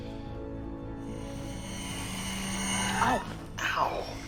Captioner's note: dramatic high-pitched whining